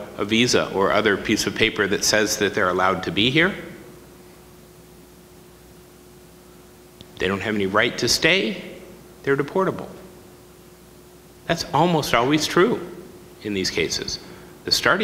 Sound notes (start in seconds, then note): none